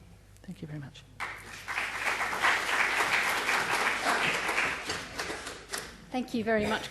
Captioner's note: applause